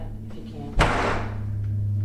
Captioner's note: slamming